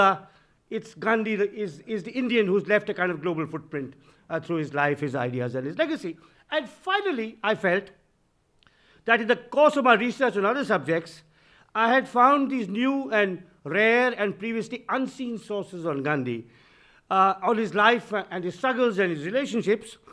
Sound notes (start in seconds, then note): none